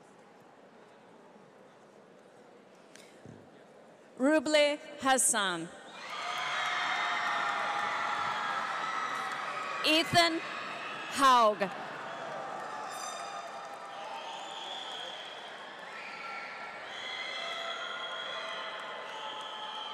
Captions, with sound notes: Ruble Hassan. (audience cheers) Ethan Haug.